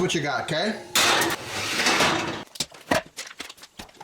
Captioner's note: metal clinging; supplies popping